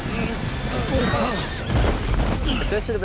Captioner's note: grunt